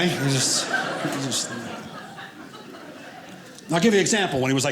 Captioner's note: audience laughing